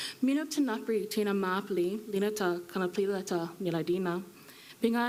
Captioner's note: speaking foreign language